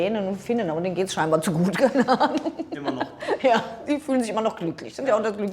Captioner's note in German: gelächter